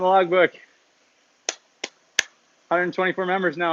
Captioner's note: clapping